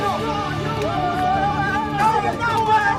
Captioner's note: shouting